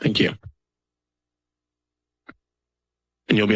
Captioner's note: silence